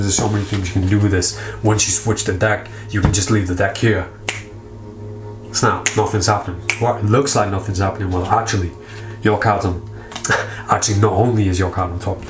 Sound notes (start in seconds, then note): 4.2 fingers snap; 10.2 laughs